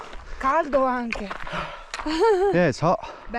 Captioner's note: woman speaking in Italian